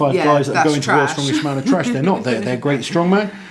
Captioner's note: laughs